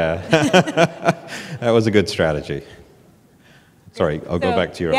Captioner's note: laughs